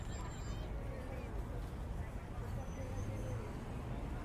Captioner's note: background chatter